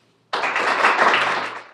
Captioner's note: applause